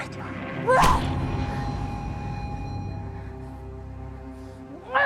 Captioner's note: Aleks grunting